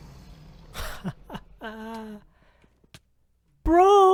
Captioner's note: laughs